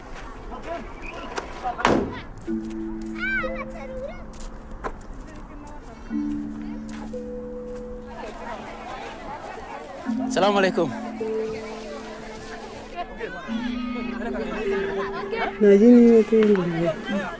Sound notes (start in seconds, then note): 2.0 children chattering; 15.0 Babiker speaking Fur